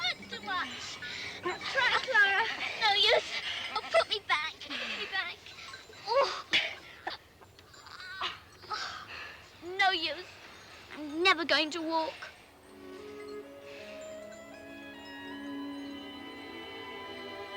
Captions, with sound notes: It hurts too much! - Try, Klara. - It's no use. Put me back, put me back. Ooh. (grunting) It's no use. I'm never going to walk. (dramatic orchestral music)